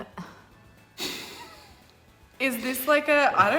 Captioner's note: laughing